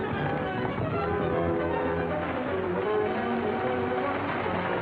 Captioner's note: horses galloping; wagon rattling